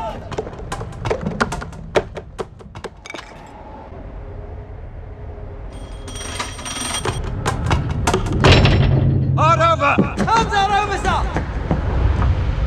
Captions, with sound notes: [Wheel Turns] -Hard Over! -Helm is Hard Over Sir!